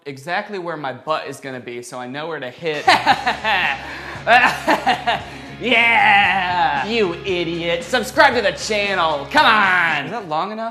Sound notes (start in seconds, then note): 2.7 very inappropriate laughter